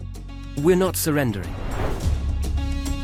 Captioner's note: transition whooshing; suspenseful music continues